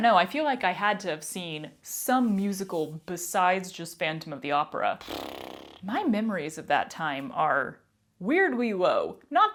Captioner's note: mouth fart